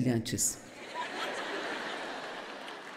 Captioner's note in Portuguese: público rindo